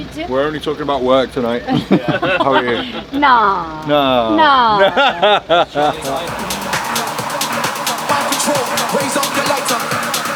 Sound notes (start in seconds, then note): 1.6 all laugh; 4.5 laughs